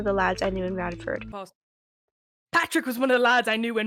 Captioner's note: speaks in terrible British accent